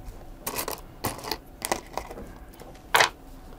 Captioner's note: clattering